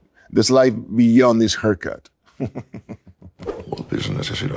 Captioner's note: laughs